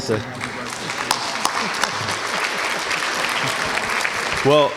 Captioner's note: applause